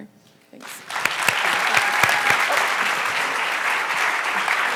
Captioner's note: audience applause